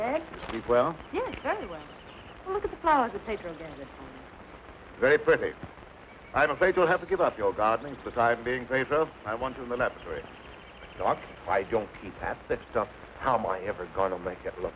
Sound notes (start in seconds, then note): none